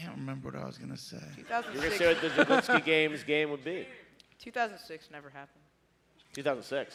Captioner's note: laughter